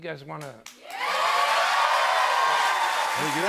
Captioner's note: cheers and applause